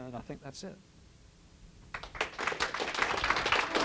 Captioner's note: applause